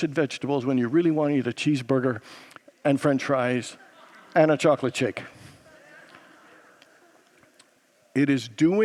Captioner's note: congregants laugh